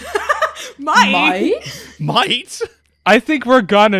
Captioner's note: laughs; laughing